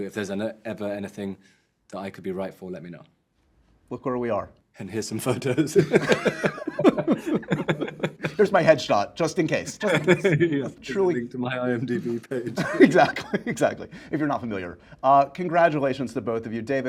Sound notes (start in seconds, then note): 5.4 laughing